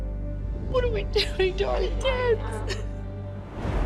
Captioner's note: sobs